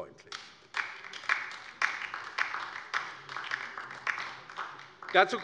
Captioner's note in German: Beifall bei der LINKEN